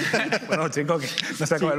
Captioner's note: laughter